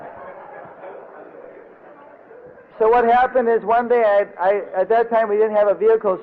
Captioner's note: devotees laughing